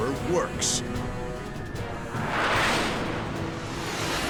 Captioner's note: jet engine noises